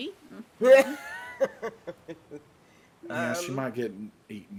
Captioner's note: person laughing